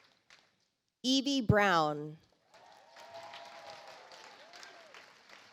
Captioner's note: audience applauds